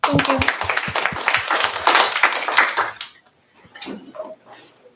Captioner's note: applause